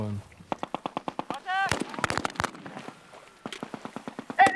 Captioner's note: gunfire